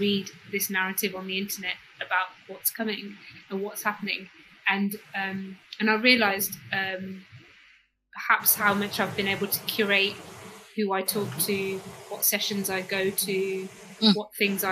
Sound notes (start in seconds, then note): 4.8 erm